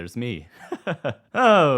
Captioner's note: laughing